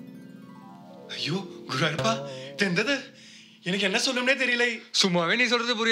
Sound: with a thick accent

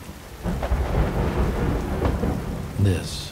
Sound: rain pounding

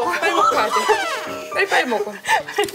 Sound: haha

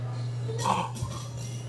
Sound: gasps

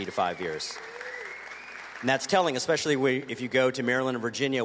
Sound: cheers and applause

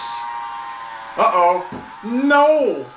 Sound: motor

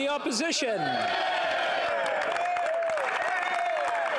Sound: speaking French; some Applause

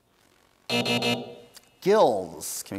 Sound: buzz

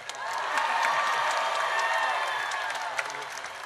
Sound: audience cheers

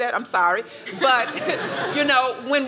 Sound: laughter

